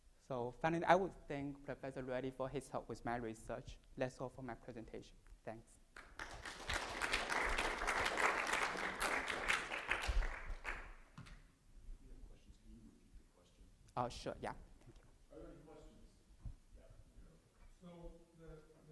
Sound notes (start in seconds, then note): 6.0 audience applause